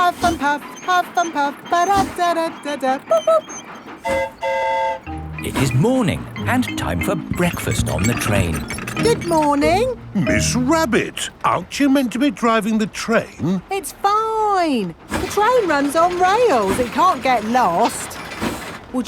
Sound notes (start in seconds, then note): 4.0 train whistle toots; 4.0 mimics train whistle